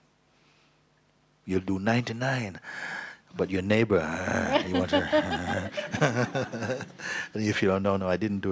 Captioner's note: laughter